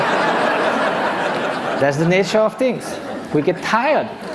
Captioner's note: laughter